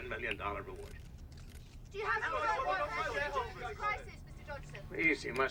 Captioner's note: reporters clamoring